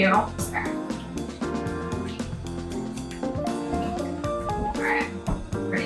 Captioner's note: grapefruit squishing